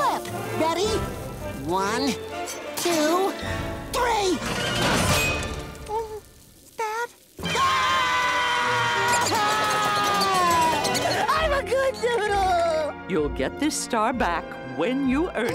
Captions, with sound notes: Ready? One, two, three. Spat? [screaming] I'm a good noodle. You'll get this star back when you earn it.